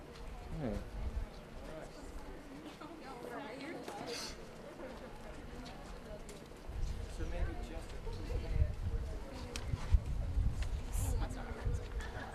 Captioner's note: general chatter